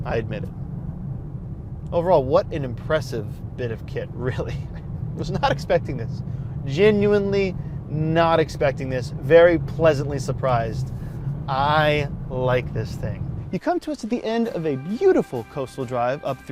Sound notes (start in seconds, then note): 4.1 chuckles